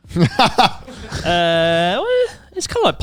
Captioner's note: laughs